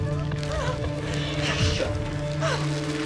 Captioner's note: cries